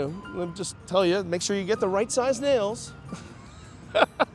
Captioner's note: laughs